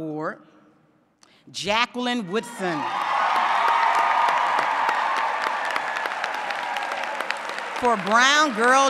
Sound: applause

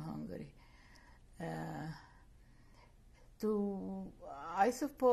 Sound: pauses for 3 seconds

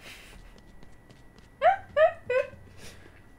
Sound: laughter

